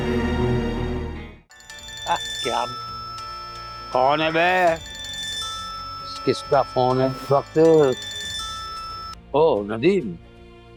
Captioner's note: phone ringing